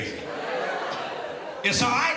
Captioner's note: crowd reacts